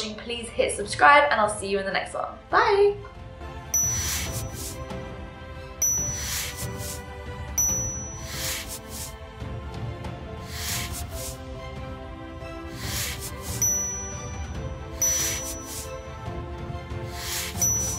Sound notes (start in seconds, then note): 4.0 dinging; 4.0 upbeat music